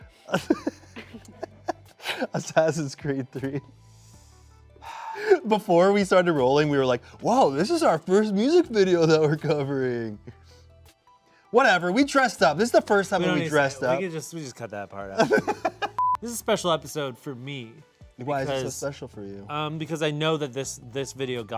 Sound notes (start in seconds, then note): 0.2 laughing; 4.7 sighing; 15.2 laughing